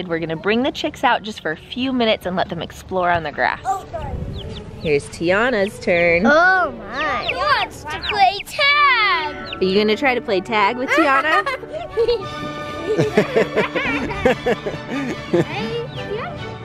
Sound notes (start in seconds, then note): 10.7 laughs; 13.4 instrumental music